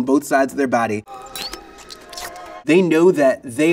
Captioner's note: liquid squishing